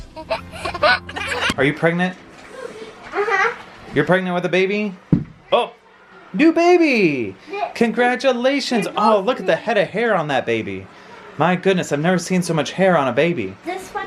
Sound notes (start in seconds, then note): 0.1 laughing; 5.1 thud